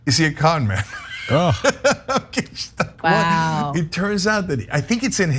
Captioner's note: laugh